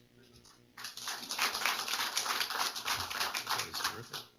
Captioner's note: applause